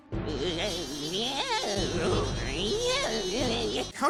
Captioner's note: buzzing